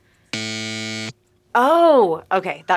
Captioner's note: buzzer beeping